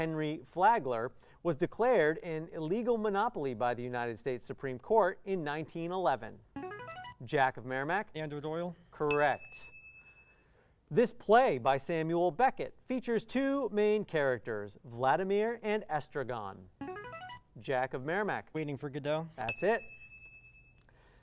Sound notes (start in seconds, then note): 6.6 player buzzer; 9.1 ding; 16.9 player buzzer; 19.4 ding